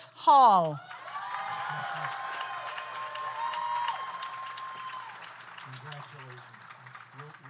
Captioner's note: audience cheers; audience applauds